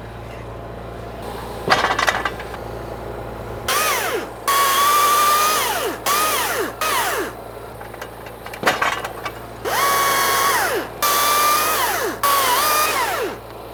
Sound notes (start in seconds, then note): 4.1 chainsaw running